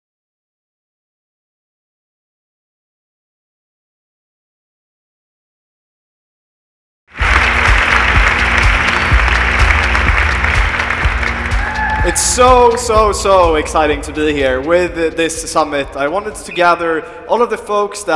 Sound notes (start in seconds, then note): 7.1 audience clapping; 7.5 upbeat music